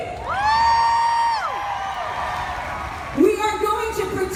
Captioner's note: crowd cheers